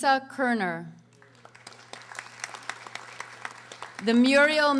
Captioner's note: audience applauding